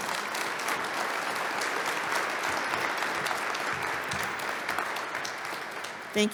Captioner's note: applause